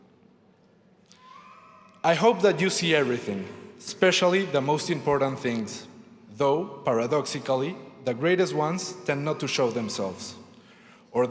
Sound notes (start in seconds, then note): none